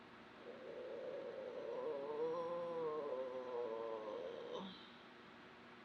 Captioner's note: groans